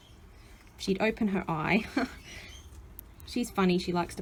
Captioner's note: laughs